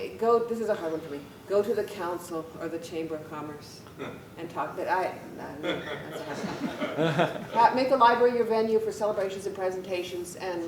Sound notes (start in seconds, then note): 5.6 laughter